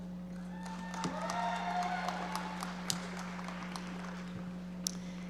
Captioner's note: audience applauding